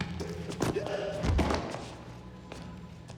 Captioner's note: grunting